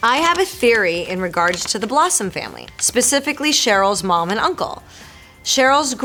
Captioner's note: Marisol reading fan letter aloud